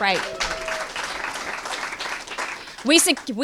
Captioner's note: applause